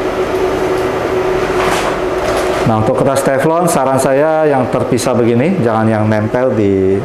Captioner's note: teflon paper sound